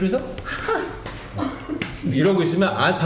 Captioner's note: laughing; slapping